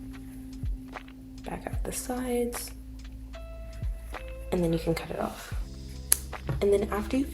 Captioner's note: scissors cut